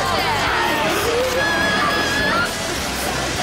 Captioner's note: screaming